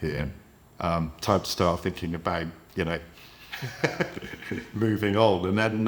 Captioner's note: laughs